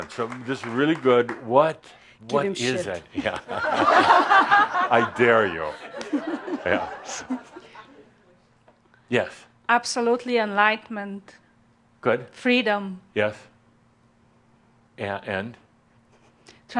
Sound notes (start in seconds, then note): 3.1 laughter